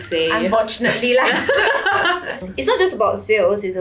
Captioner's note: laughs